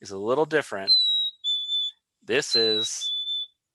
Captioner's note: bird whistling